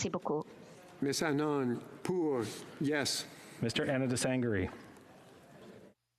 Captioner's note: speaking French